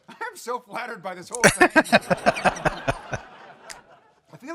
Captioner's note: laughing